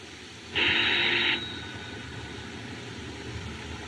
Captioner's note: ringing